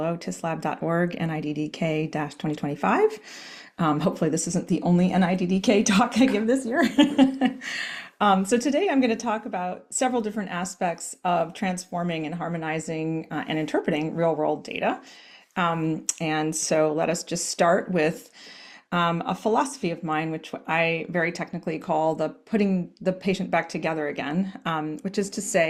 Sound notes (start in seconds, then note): 8.1 laughs